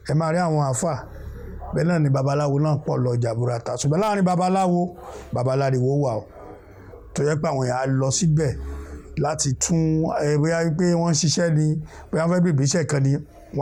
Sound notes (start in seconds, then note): 4.2 clamorous people